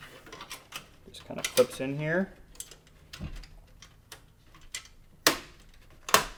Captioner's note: metal clinking